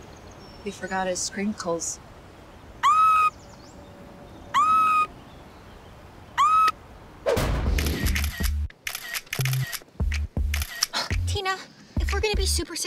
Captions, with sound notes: He forgot his sprinkles. [screaming] [camera flashing] Tina, if we're going to be super successful